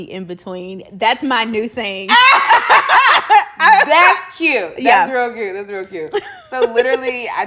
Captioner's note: laughing